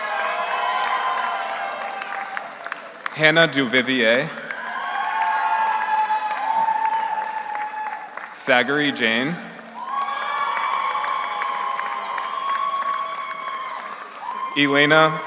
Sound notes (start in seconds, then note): 0.1 audience applauds; 0.1 audience cheers; 5.0 audience applauds; 5.0 audience cheers; 10.2 audience applauds; 10.2 audience cheers